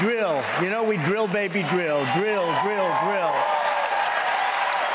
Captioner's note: cheers and applause